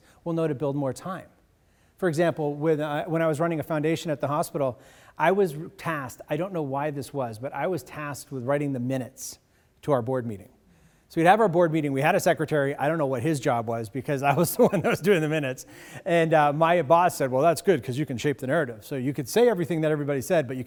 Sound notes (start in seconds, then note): 14.5 audience laughs